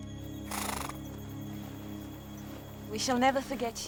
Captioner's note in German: Pferd wiehert